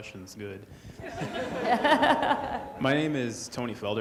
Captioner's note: all laughing